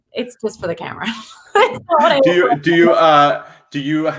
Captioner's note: chuckles